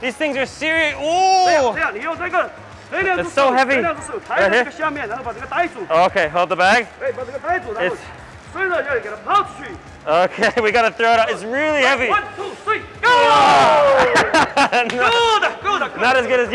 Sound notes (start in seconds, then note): 1.8 worker speaks Mandarin; 7.0 worker speaks Mandarin; 13.1 all groan; 13.9 laughs